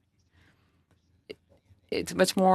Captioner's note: speaking French